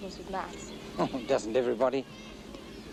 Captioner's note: chuckles